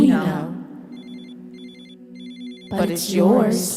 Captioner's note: Dee’s phone rings